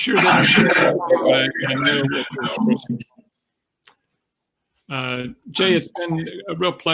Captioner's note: microphone feedback